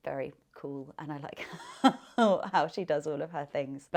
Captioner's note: laughing